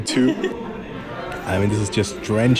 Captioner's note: giggles